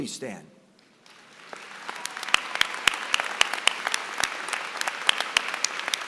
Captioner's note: applause